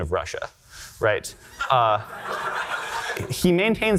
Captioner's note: audience laughter